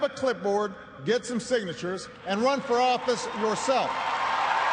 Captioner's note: cheers and applause